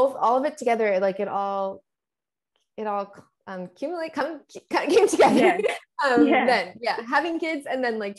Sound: laughs

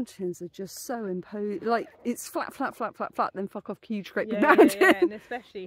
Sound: laughing

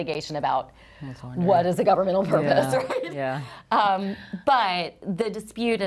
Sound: chuckles

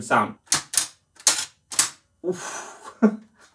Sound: typewriter clicks

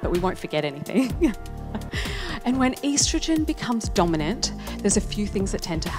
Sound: chuckles

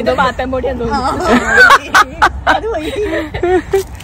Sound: laughing

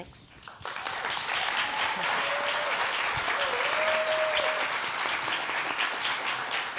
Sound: applause

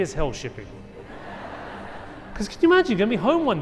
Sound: audience laughing

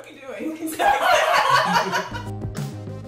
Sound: laughing

